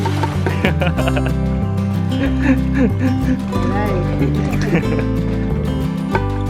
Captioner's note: laughing